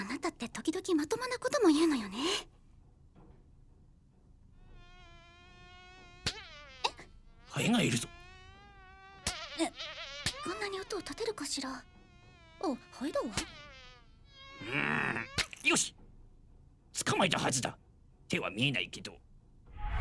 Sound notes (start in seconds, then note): 4.7 fly buzzing; 6.4 slap!; 6.4 stammers; 9.4 slapping; 9.4 stammers; 13.3 slap!; 16.0 buzzing stops